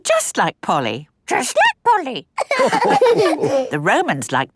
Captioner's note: all laughing